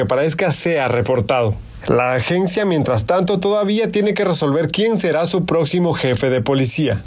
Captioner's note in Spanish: habla en ingés